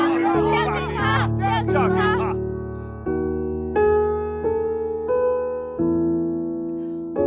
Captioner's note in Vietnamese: Vỗ tay